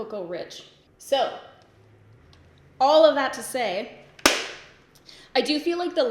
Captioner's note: palettes snap closed